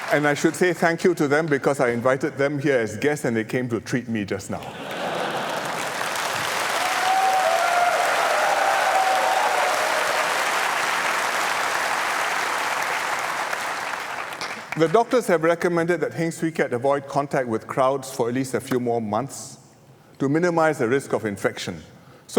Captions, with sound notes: And I should say thank you to them because I invited them here as guests, and they came to treat me just now. [Laughter and applause] The doctors have recommended that Heng Swee Keat avoid contact with crowds for at least a few more months to minimise the risk of infection.